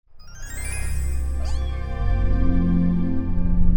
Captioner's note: cat meowing